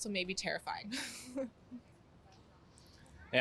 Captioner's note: chuckling